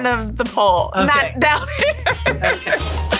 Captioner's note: laughing